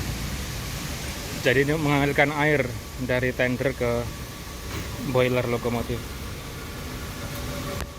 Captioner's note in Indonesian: ketel lokomotif uap